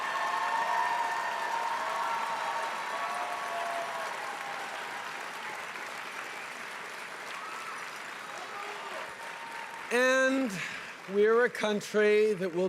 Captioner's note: cheering and applause